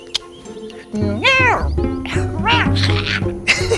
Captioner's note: meowing; Chico laughs